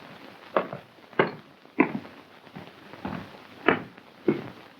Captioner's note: footsteps thudding